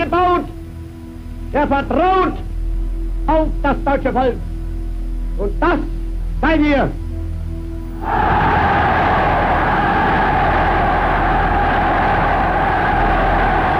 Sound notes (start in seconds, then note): 8.0 crowd cheering in foreign language